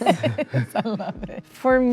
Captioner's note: laughs